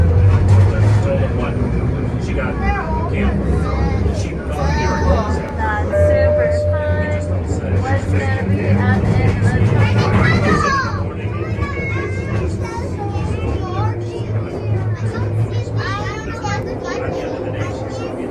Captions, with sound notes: *side conversations are happening, going into a tunnel* we are in a tunnel! so scary! i can't see a thing...